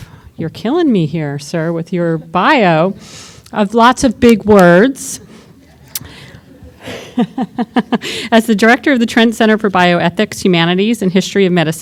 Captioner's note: laughter